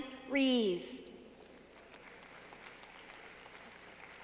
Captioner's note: clapping